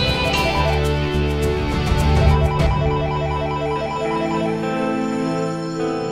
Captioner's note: Phone ringing